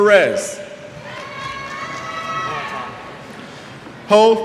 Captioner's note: cheers